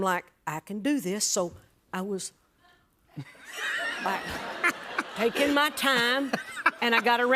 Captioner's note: laughter